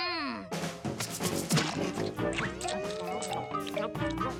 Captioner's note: chewing